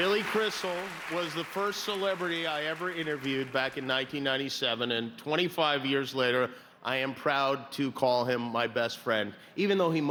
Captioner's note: cheers and applause